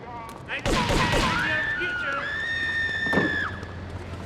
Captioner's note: gun firing; screaming